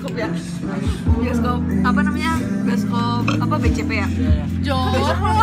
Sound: burp

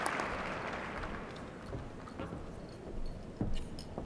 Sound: applause

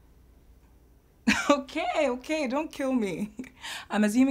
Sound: Efosa chuckles

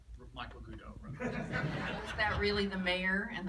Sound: laughter

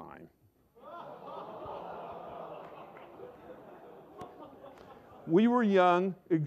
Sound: laughter

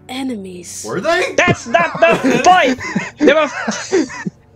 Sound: laughter

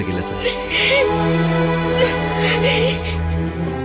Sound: crying

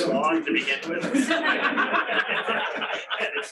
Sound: laughter

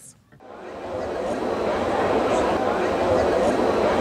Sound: students talking

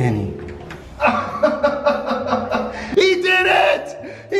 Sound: laughing

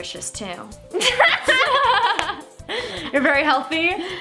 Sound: laughing together

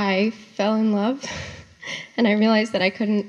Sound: laughs

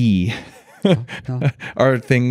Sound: chuckles

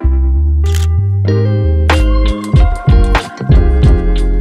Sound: mellow music; camera shutter clicks

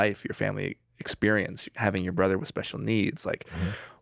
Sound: none

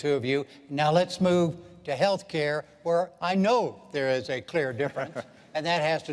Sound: laughter

